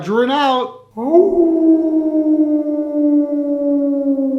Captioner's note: wolf Howl